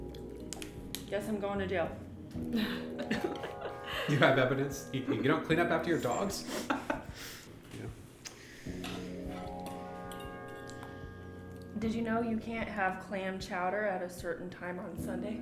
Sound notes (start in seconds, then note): 2.6 everyone laughs